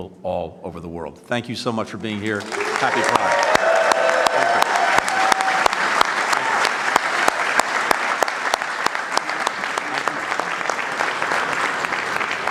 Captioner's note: applause